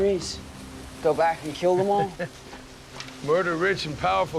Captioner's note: chuckles